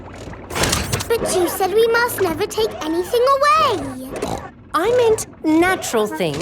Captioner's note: snorts